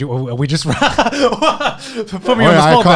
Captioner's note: laughing